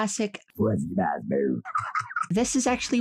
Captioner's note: laughing